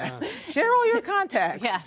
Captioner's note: laughter